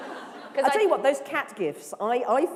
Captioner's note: laughter